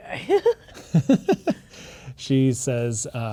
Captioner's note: laughing